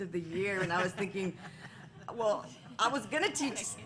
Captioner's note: laughter